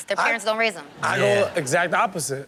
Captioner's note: audience laughing